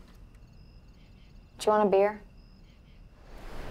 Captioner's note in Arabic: تلاطم الأمواج